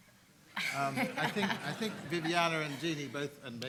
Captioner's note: everyone laughs